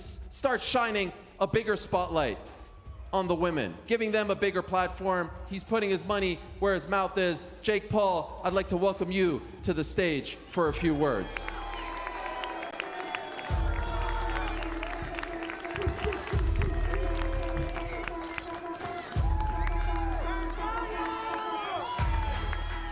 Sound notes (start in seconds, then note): 12.2 cheers and applause